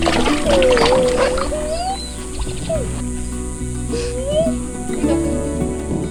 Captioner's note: kids playing in water